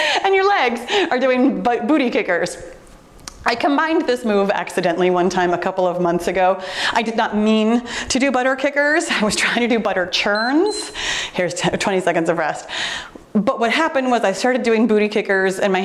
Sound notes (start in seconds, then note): 10.3 timer beeps